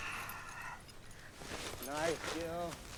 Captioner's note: wind blowing